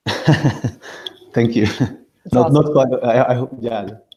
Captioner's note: chuckles